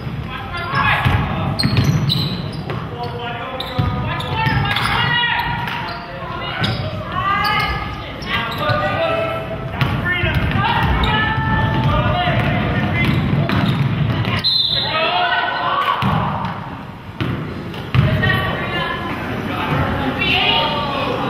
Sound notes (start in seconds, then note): 14.4 whistle blows